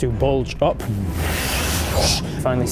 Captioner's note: fwoosh